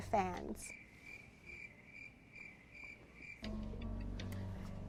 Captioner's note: crickets chirping